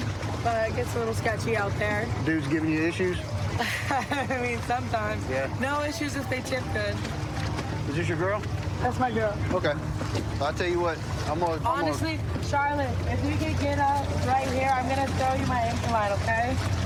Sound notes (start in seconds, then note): 3.6 laughs